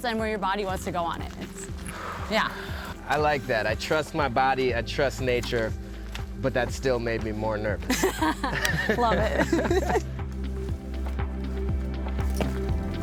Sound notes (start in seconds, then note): 1.6 sighs; 7.8 laugh; 10.2 upbeat music